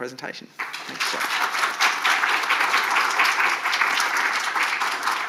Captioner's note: audience clapping